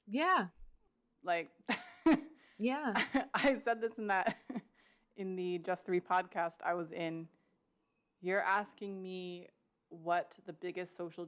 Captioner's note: laughs